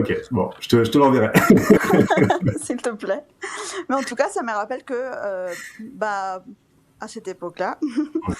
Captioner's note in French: rires